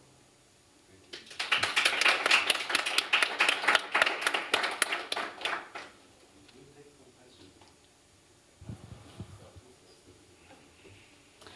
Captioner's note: applause